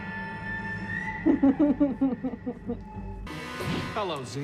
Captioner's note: laughter